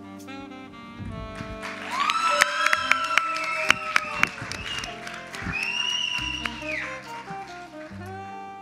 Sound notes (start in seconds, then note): 1.2 audience applauds; 1.3 audience cheers